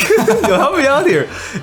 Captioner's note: laughs